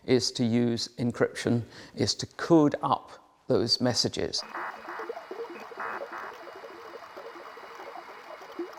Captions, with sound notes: is to use encryption, is to code up those messages. (coding machines humming)